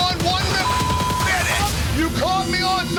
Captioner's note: beep